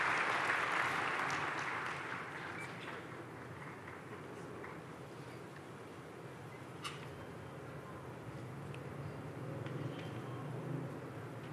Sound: applause

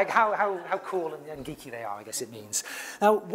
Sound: laugh

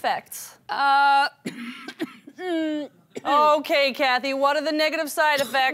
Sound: coughing

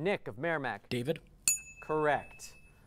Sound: ding

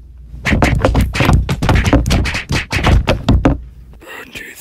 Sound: Golpes y más golpes

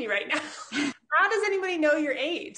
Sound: laughs

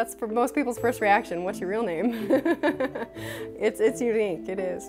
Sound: laughter

